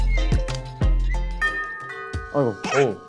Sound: bell ringing ♬

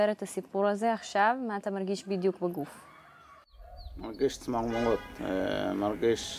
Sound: speaks foreign language

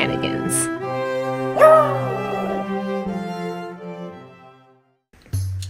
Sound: howling

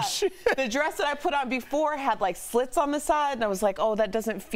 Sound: laughter

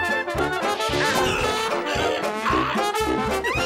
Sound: choking

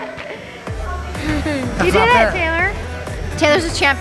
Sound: laughing

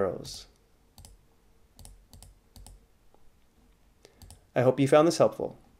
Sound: fast, repetitive mouse clicking

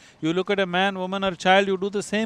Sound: none

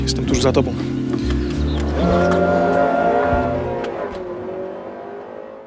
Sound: vroom

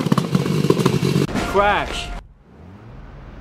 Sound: crash

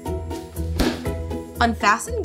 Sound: lid slaps

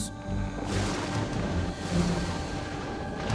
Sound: thunder

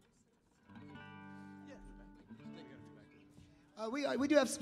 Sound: band members murmuring

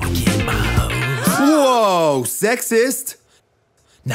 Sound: ladies gasp

